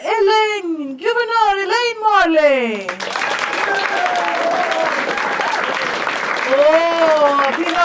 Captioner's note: audience claps and cheers